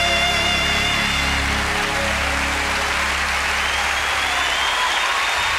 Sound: audience applauding

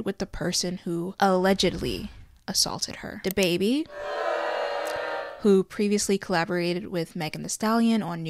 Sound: boos

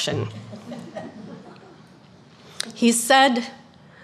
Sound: audience chuckling

